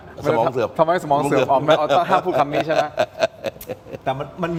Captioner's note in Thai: เสียงหัวเราะ